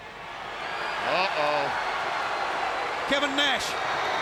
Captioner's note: crowd cheering